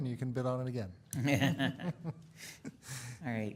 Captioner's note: audience laughs